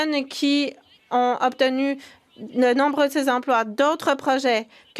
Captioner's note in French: voix de l'interprète